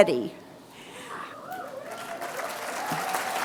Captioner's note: applause